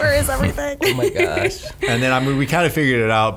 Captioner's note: laughs